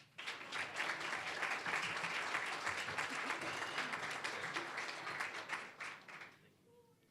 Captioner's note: applause